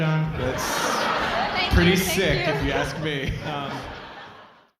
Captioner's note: audience meowing; audience laughing